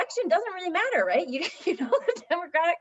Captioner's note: laughter